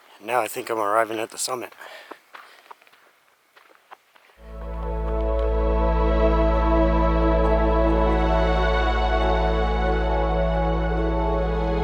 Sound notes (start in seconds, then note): 3.5 footsteps in gravel; 4.4 slow soothing music